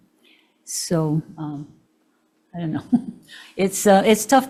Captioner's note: chuckling